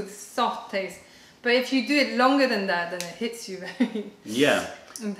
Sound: laughter

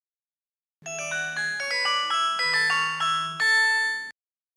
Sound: cell phone rings

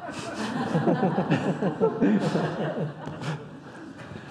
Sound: audience laughing

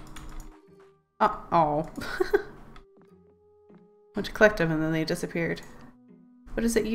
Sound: laughs

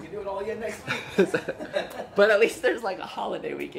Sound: laughing

